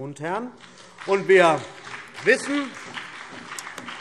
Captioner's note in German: Beifall CDU und BÜNDNIS 90/DIE GRÜNEN